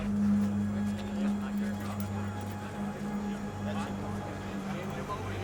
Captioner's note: reporters chattering